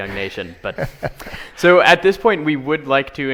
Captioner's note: laughing